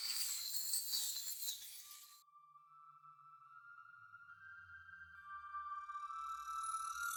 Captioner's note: creepy tingling